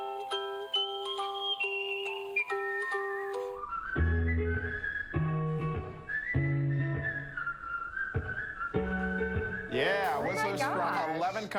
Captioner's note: whistling